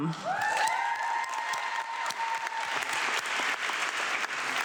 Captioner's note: audience clapping